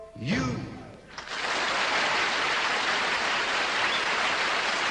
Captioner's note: audience applauding